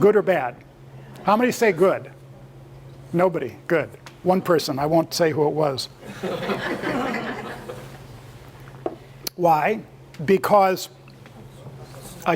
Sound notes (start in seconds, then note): 6.1 laugh